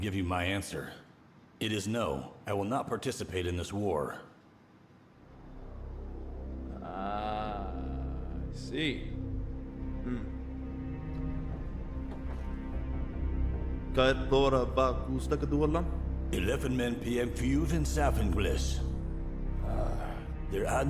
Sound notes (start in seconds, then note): 6.1 dramatic music; 14.0 speaking in foreign language